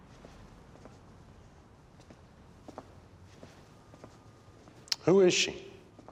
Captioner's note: none